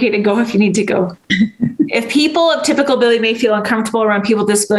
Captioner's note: chuckles